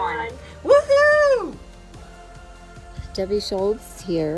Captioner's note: speaker hollering